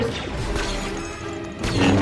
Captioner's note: blaster fire